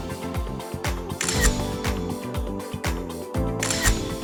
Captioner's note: upbeat music; camera clicks